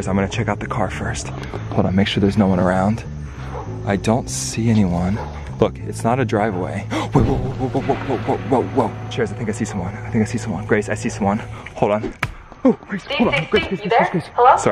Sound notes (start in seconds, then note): 5.0 dog barks; 6.8 gasps